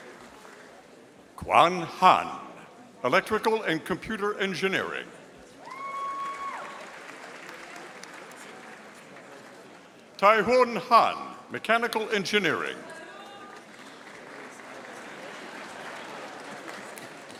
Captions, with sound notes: Quan Han, Electrical and Computer Engineering. (audience applauding) Taihun Han, Mechanical Engineering. (audience applauding)